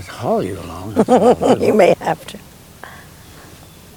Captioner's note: laughs